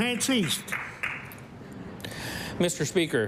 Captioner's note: applause